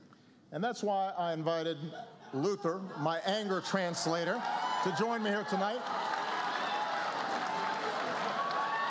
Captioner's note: applause